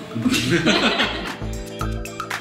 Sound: laugh

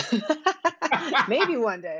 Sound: laughs

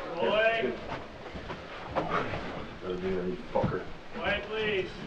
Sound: Jason whispers

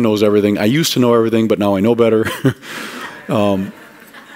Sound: laughter

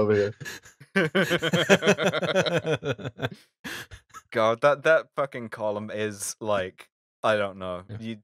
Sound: laughter

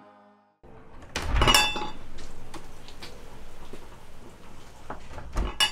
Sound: door chime clangs

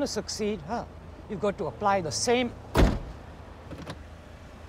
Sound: car door slams

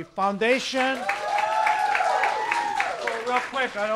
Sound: applause

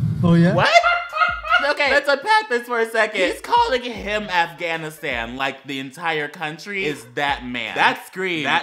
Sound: laughter

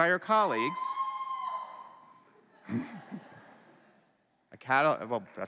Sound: cheering

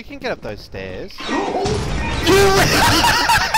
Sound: explosion

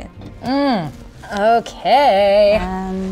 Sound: moans

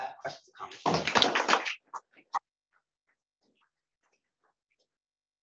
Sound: audience applauding

